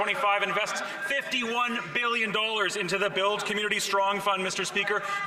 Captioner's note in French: voix de l'interprète